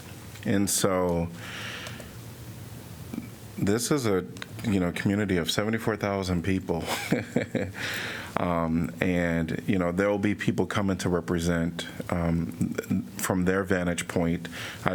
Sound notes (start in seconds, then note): 6.8 laughter